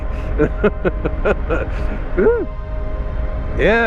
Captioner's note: laughs